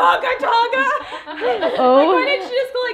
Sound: everyone laughs

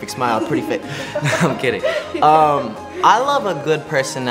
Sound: chuckles

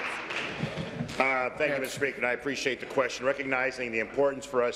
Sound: applause

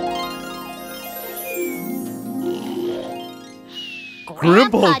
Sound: snoring

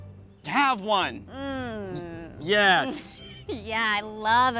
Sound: skeptically

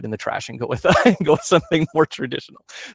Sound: chuckles

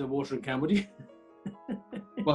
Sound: chuckling

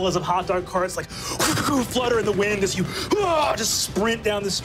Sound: whooshes; grunts

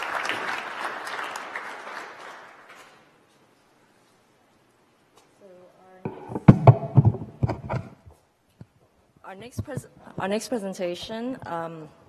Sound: applause

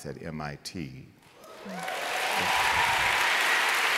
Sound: applause

